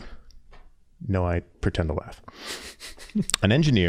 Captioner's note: chuckling